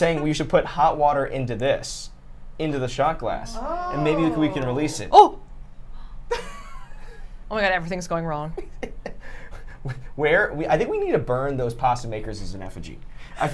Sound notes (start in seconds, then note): 9.0 laughs